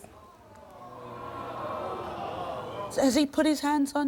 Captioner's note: crowd booing